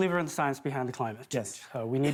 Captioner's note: laughter